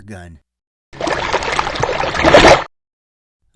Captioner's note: water sound